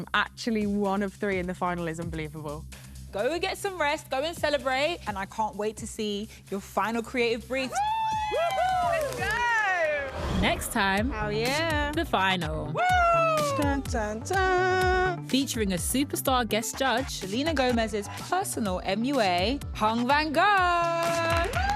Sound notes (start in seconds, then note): 7.7 cheering